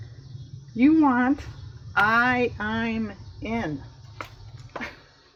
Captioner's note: laughs